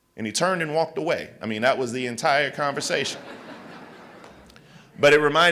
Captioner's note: laughter